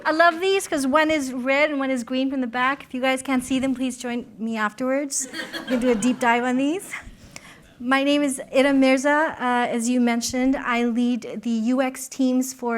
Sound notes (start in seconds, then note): 5.2 laughter